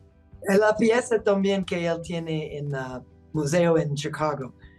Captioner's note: speaking Spanish